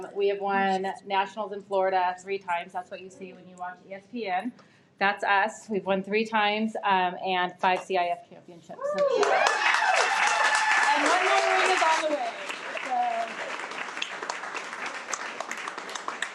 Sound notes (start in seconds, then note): 8.9 everyone applauds and cheers